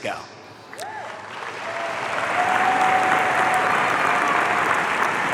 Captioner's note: audience cheering